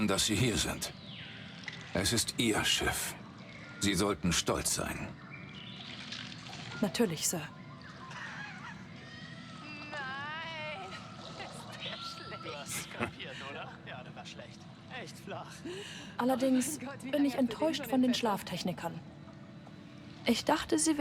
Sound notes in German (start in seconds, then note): 12.6 gelächter